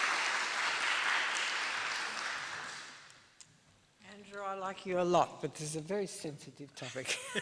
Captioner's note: applause